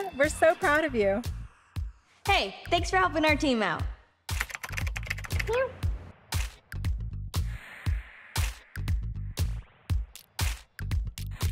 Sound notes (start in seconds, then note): 4.3 typing; 7.4 pop music